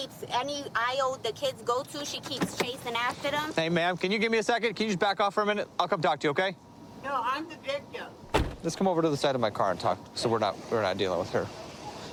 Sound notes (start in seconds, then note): 8.2 car door closes